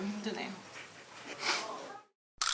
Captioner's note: sniffs